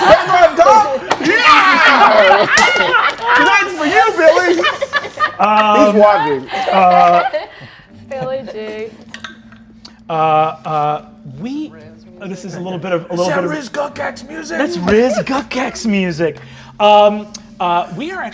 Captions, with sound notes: My man's on top? Yeah! (Everyone laughing) That's for you, Billy! He's watching. - Billy G. - This is a little bit of- - Is that Riz Gukgak's music? - That's Riz Gukgak's music.